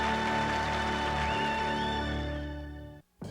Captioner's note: whistles and cat calling